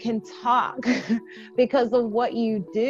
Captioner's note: laughs